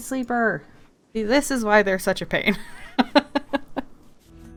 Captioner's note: laughs